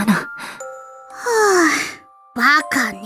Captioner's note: sigh